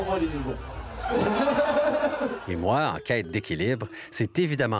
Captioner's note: laughs